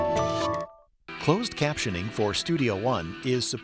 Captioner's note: voiceover